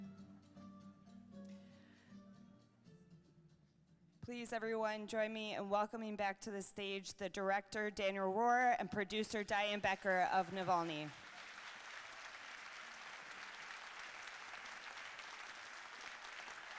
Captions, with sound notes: - Please everyone join me in welcoming back to the stage, the Director Daniel Roher and Producer Diane Becker of "Navalny." (audience cheering) (audience clapping)